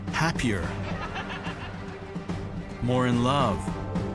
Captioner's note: laughing